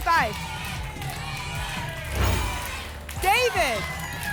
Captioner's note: audience chanting "jaiden!"